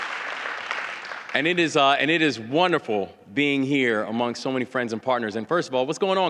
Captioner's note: applause